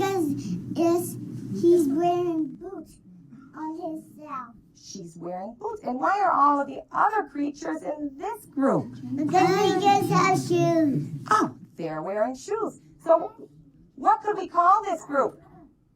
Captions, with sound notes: - Because he's wearing boots on hisself. - She's wearing boots! And why are all of the other creatures in this group? (kids clamoring) Oh, they're wearing shoes! So what could we call this group?